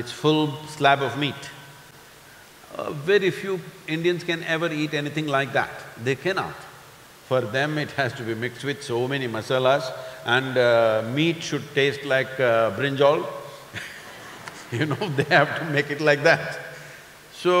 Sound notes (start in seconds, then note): 13.7 laughter